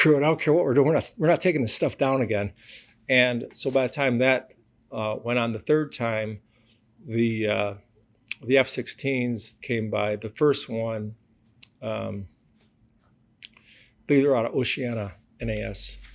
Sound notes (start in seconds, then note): none